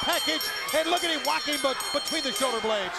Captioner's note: bell ringing